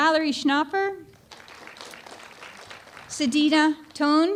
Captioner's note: applause